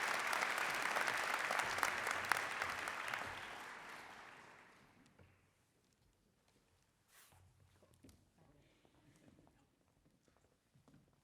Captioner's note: applause